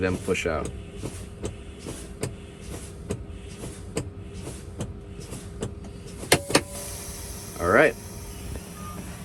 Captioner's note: brakes pumping